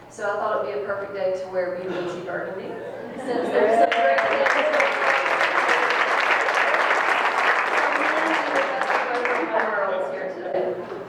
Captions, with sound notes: So I thought it would be perfect day to wear BB&T burgundy. (people applauding drown out the speaker)